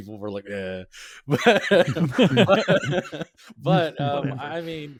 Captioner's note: laughing